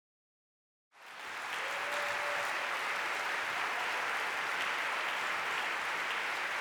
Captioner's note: applause